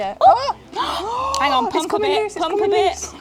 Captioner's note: gasps